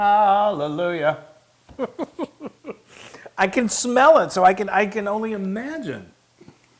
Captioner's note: laugh